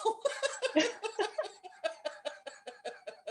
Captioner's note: laughter